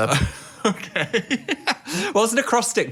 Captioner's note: laughs